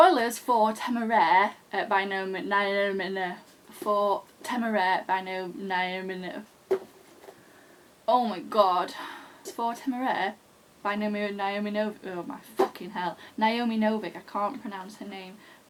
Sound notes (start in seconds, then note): 6.6 more stumbling